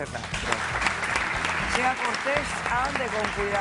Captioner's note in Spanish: Aplausos